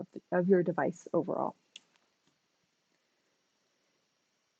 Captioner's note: silence